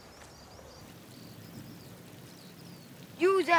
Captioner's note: wind and grasshoppers